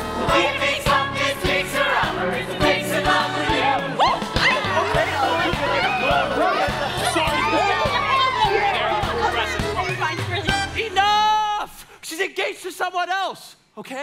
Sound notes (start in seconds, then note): 5.1 all chattering happily